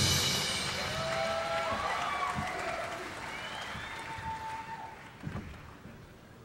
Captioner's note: audience cheering; audience applauding